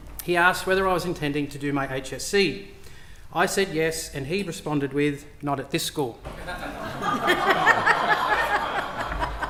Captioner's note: laughter